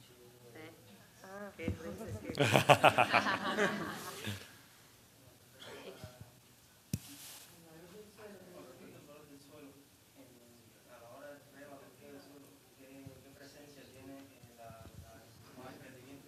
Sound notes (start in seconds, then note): 2.3 laughter